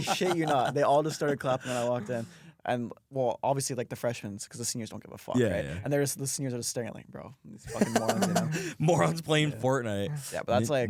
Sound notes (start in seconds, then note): 7.7 laughs